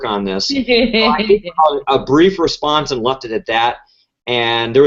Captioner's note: laugh